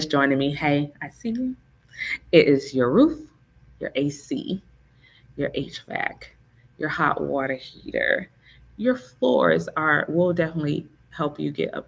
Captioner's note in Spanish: hvac